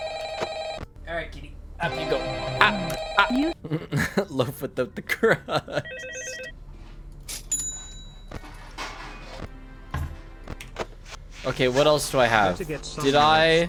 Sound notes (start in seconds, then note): 1.8 laughing